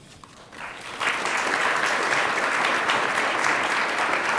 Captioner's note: attendees applaud